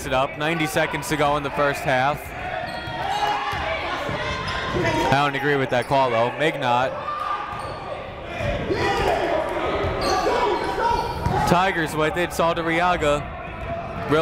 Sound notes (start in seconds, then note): 3.4 shouting; 8.6 shouting